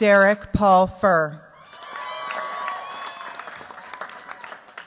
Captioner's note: cheers, applause